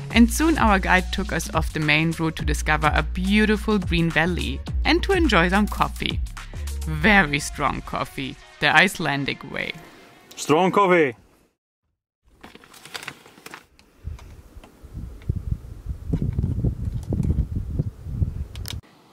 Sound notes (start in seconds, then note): 12.3 packet rustling; 13.9 wind blowing